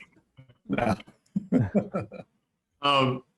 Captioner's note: laughs